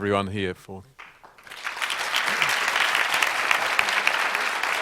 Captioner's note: applause